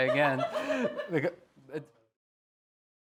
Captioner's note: laughter